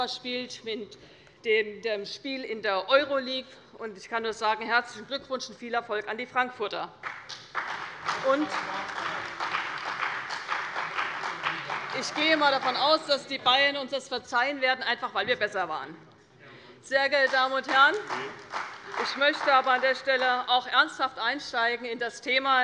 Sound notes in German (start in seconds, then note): 7.0 Beifall bei der CDU und dem BÜNDNIS 90/DIE GRÜNEN; 17.6 Heiterkeit - Beifall bei der CDU